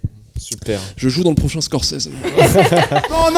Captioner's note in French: rires